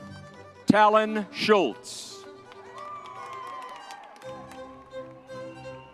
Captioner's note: crowd cheering